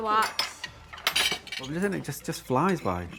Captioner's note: dishes clanging